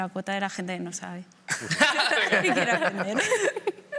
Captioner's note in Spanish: todos ríen